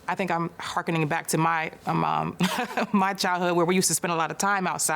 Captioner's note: laughs